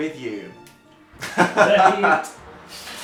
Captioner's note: laughs